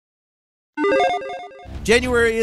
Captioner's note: electronic chiming